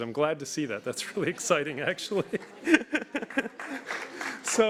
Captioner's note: laughs